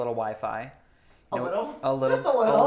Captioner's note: laughs